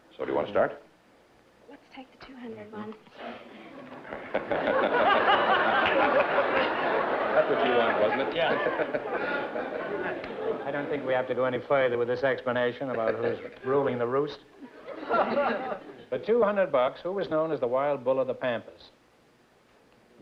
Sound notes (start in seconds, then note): 3.6 laughter